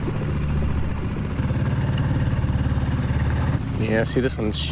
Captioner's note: engine rumbles